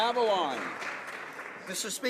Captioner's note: applause